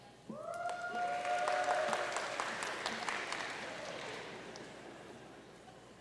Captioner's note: audience cheering and applauding